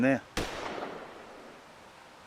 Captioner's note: gun shot